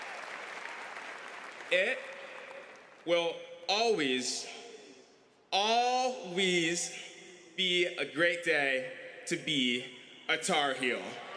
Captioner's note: applause